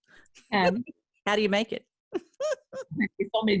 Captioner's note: laughing